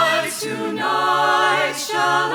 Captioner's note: none